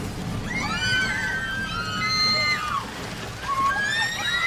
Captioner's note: explosion; people screaming